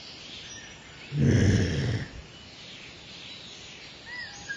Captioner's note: woman groaning